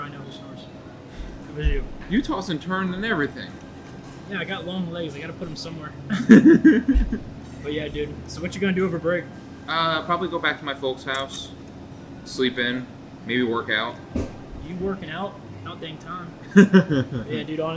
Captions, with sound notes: - No, I'm pretty sure I know who snores. It was you. - You tossed and turned and everything. - Yeah, I got long legs. I gotta put 'em somewhere. (Thomas laughs) But yeah, dude, so what you gonna do over break? - Probably go back to my folks' house, sleep in, maybe work out. - You working out? About dang time.